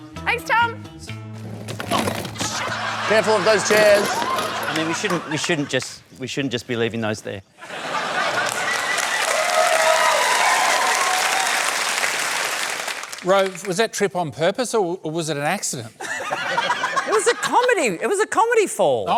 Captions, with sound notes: Thanks, Tom! Oh, shit! Careful of those chairs. I mean, we shouldn't... we shouldn't just... ...we shouldn't just be leaving those there. (LAUGHTER) (CHEERING, APPLAUSE) Rove, was that trip on purpose or was it an accident? It was a comedy... It was a comedy fall!